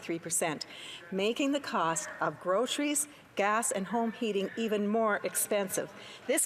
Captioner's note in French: voix de l'interprète